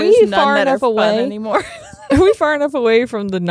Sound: chuckles

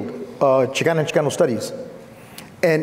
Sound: foreign speaking

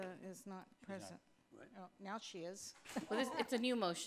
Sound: laughing

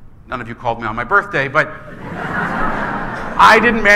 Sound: laughing

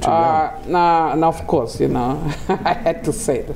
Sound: laughing

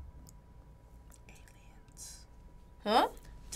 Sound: whispers

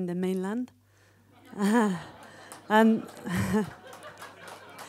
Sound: laughing

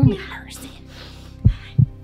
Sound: heartbeat

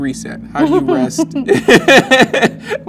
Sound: laughs

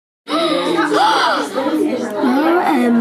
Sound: kids gasping

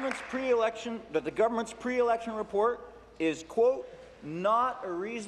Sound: applause

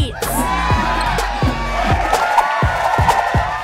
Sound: crowd cheers

